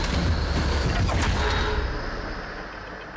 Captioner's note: arrow thuds